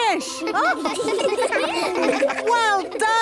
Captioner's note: children laughing